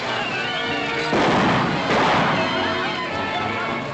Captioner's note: gunshots